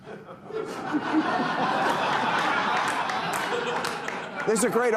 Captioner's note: audience laughing